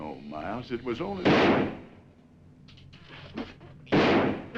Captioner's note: gun firing